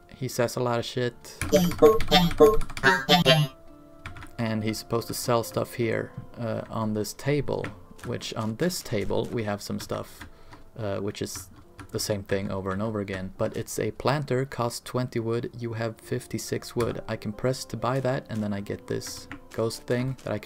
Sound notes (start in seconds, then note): 1.5 spam clicking through the robot noises